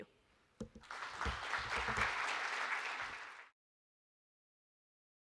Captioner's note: audience clapping